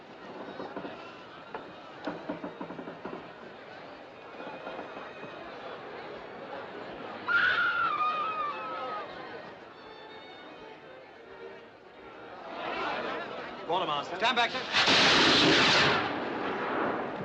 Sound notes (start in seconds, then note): 0.2 Navio rangendo; 7.4 Mulher grita